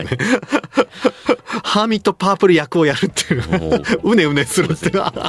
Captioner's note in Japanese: 笑い